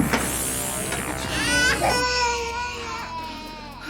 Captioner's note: Emily crying